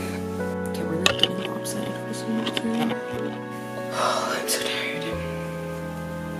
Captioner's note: sigh